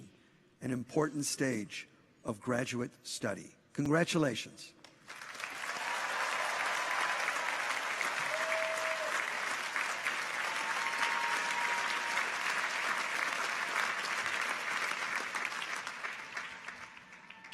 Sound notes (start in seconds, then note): 5.4 audience applauds; 5.4 people cheer